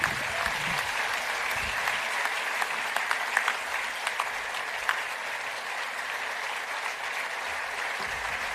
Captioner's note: applause